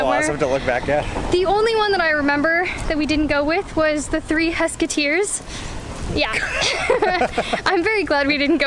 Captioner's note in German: Gelächter